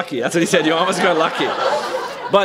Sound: laughter

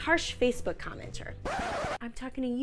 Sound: record needle scratching

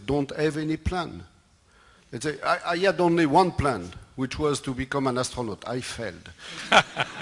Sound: laughter

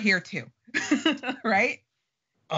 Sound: laughing

